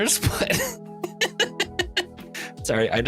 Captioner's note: laughs